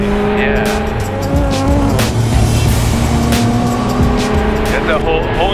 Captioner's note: car engine revving